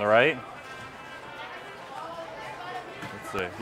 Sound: crowd chattering

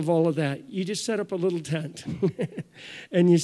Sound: laughs

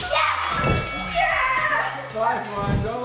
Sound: bell chimes

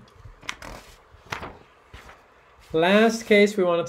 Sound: page rustling

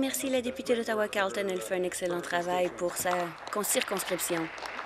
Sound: applause

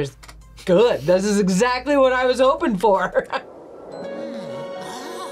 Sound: laughs

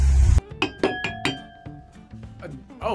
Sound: engine revs; glasses chiming

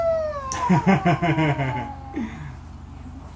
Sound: laugh

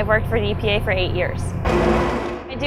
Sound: ship noise

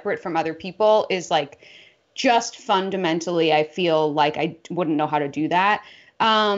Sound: none

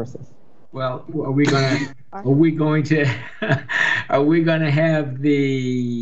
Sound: chuckling

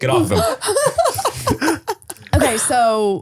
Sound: laughing

